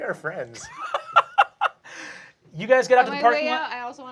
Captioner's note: laughs